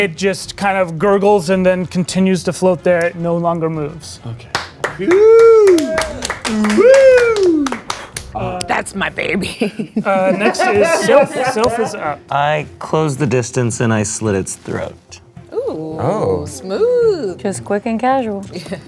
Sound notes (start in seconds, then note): 4.4 all clapping; 5.0 yelling; 9.4 laughing